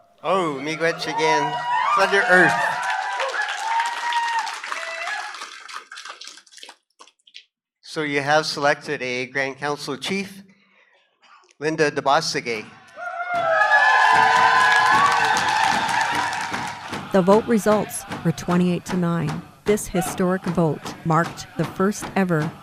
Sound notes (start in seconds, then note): 6.1 applause; 12.9 cheers and Applause